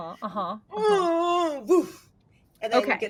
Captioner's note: groaning